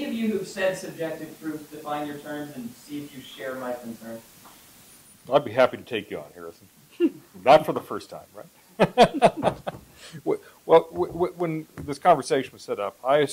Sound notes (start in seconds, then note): 8.8 laughs